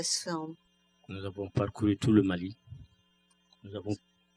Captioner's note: speaking french